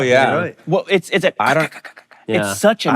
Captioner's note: stuttering